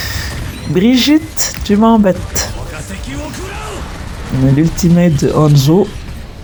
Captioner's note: laughs